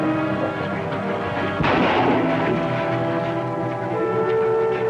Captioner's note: gunshots